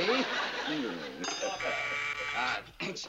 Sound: laughs; doorbell buzzes

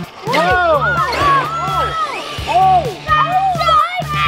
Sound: excited shouting

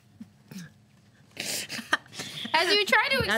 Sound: laughter

